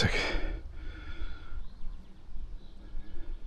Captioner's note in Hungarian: sóhajtás